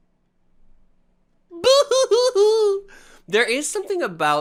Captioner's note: crying